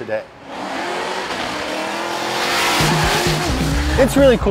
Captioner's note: car revving